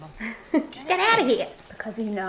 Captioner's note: laughs